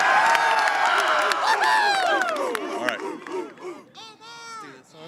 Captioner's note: cheering; hooting